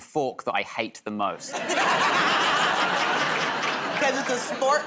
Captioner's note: laughter